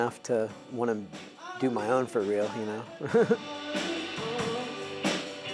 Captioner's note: laughs